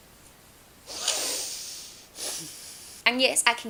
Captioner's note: breathes in annoyance